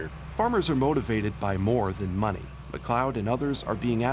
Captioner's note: voiceover